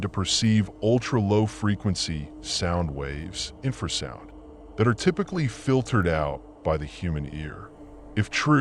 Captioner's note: infrasound